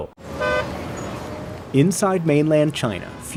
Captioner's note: horns honking